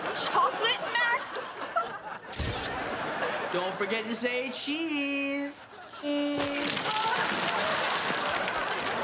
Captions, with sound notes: Chocolate, Max? [laughing] Don't forget to say cheese! Cheese. [laughing]